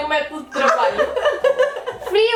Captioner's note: laughs